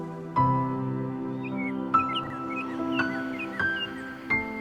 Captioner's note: birds chirping